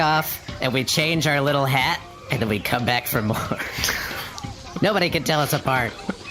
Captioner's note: laughing